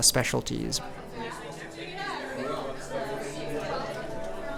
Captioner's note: chattering